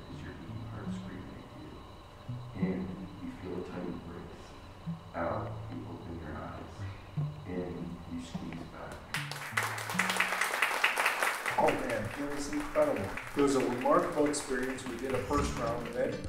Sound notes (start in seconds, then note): 9.1 applause